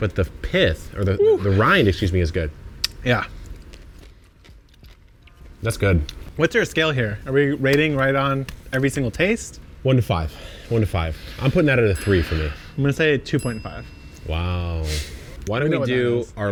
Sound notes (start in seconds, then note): 2.8 lips smack; 11.6 bell chimes